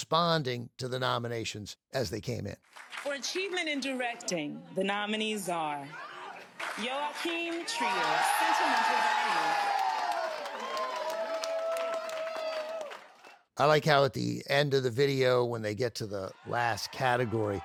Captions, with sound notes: to the nominations as they came in. For Achievement in Directing, the nominees are Joachim Trier, Sentimental Value, (ALL CHEERING) I like how at the end of the video, when they get to the last category,